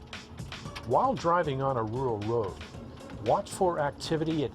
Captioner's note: voiceover